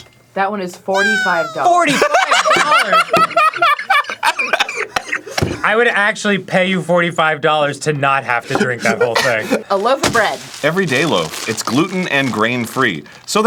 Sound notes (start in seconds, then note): 3.3 cackling